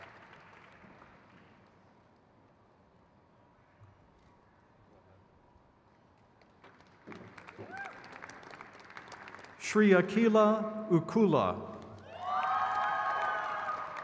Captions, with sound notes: Zachary James Terry. (crowd claps)